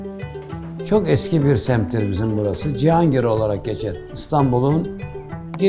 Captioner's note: speaking in foreign language